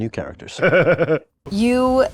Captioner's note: laughing